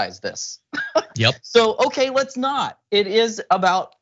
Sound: laugh

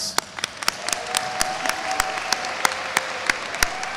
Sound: audience applauds

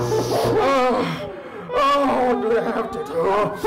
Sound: moans

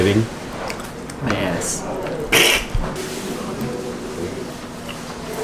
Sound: snickers

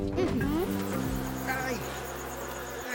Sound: insects buzzing

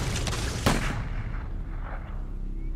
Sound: gun fires

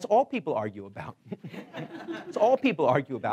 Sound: laughing

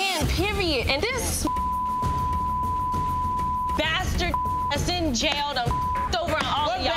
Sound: beep

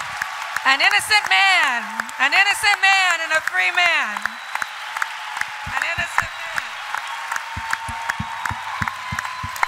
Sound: applause

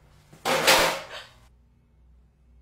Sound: crashing sound

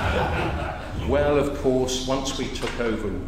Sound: laugh

